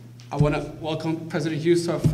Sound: none

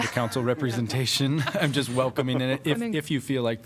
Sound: laughter

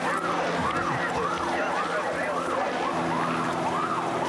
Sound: siren

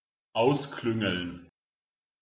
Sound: fast Pronunciation

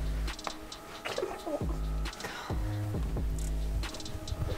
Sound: whispering

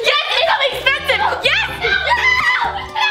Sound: cheering

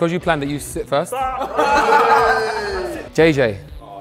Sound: group laughs

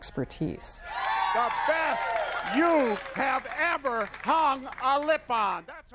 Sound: cheers

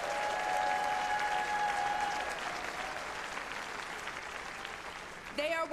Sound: applause

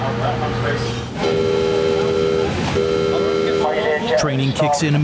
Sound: bell buzzing

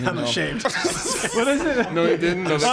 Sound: everyone laughing

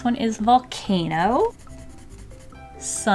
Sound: pencil scratching

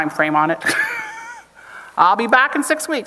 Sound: chuckles

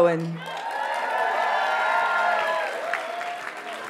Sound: audience cheers and applauds

